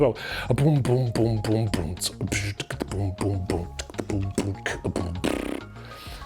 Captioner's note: and more beatboxing